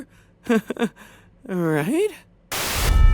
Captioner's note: nervous laugh